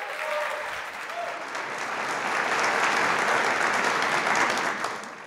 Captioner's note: audience applauds and cheers